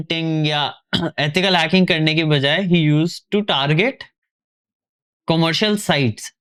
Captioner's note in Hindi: गला साफ़ करने की आवाज़